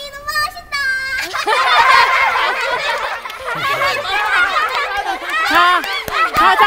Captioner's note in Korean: 웃음소리